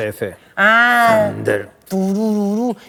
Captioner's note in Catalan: gruñiendo; tatareando